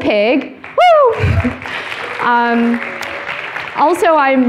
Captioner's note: applauding